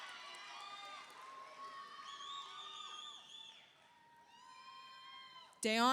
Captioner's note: audience applauds; audience cheers